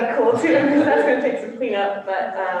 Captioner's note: laughter